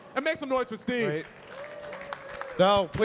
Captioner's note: audience cheering and clapping